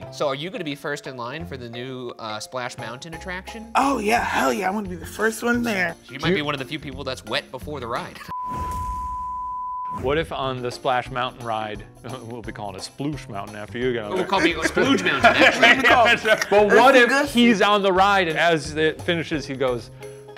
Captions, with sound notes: So are you gonna be first in line for the new Splash Mountain attraction? - Oh yeah, hell yeah, I wanna be the first one there. - You might be one of the few people that's wet before the ride. (high-pitched tone beeping) - What if on the Splash Mountain ride... We'll be calling it a sploosh mountain after you go. - We'll call it splooge mountain, actually. (all laughing) - But what if he's on the ride and as it finishes, he goes,